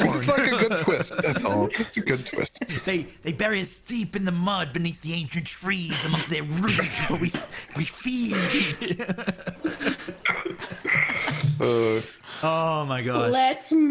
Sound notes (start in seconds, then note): 8.2 giggles; 11.3 chuckles and sighs